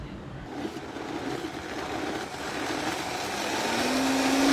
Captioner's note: blender whirring